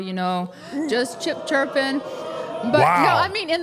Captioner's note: audience cheering